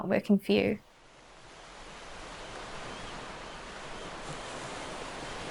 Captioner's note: ocean and seagull sounds